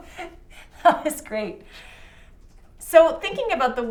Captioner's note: laughing